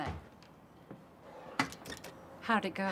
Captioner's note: door closes